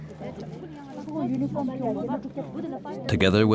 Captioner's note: speaking foreign language